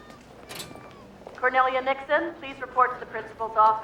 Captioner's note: PA announcer